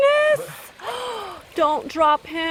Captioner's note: gasp